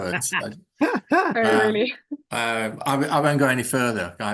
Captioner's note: laughs